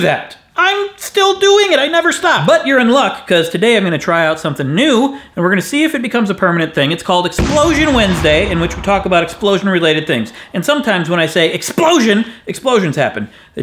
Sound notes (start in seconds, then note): 7.4 explosion noise